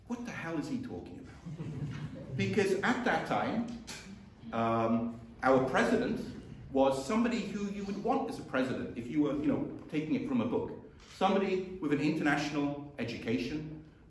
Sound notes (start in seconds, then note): 1.3 chuckling